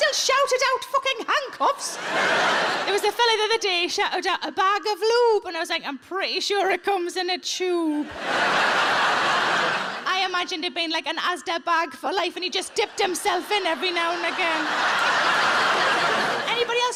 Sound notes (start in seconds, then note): 1.7 audience laughs; 8.0 audience laughs; 14.9 audience laughs